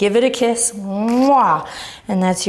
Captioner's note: kissing